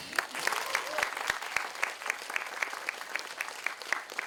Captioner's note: audience applauding